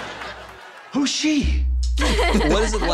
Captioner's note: laughing